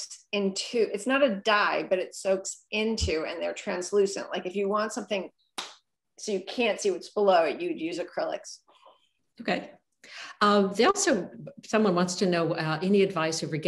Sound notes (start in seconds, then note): 5.6 claps